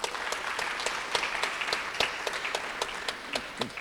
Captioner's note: applause